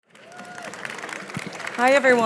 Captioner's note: audience clapping